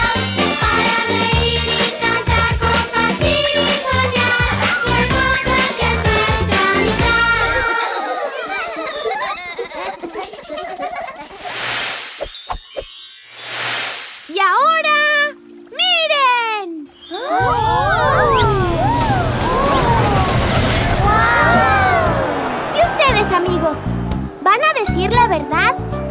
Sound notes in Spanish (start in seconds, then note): 7.6 Risas